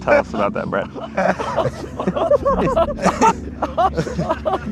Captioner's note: men laughing